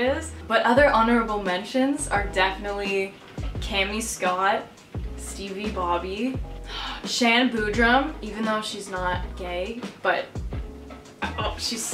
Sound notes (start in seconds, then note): 6.6 gasp